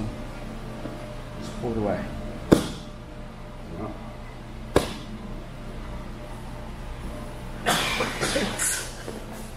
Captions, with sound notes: just pull it away. (hand slams against the floor) Yep. (hand slams against the floor) (coughing)